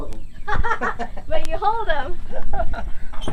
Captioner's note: laughs